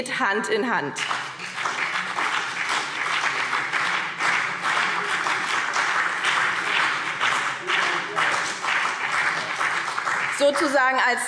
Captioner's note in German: Beifall BÜNDNIS 90/DIE GRÜNEN und CDU